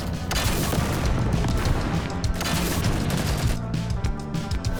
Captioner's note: explosions; rockets firing